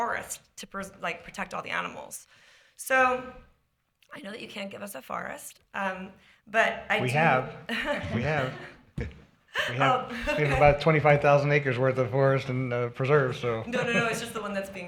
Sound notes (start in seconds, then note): 7.6 laughter